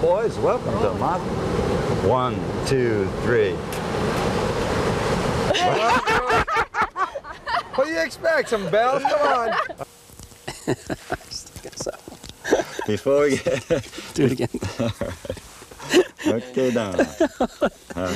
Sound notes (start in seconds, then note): 5.4 laughter; 10.3 he can't stop laughing; 10.4 laughter; 14.8 laughter